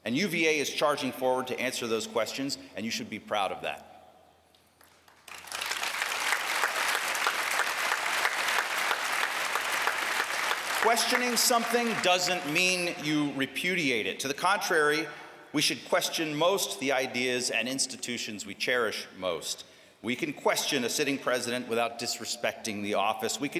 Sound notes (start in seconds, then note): 8.7 applause